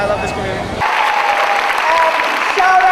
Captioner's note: audience applauding